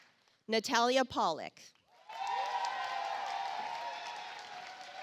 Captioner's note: audience applauds